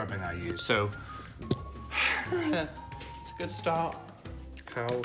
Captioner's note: sighs